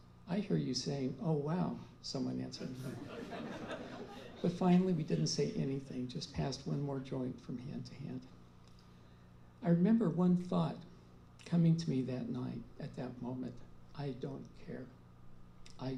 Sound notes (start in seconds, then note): 2.6 laughter